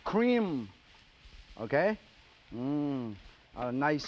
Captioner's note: sizzling